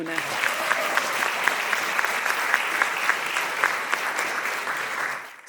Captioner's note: audience applauding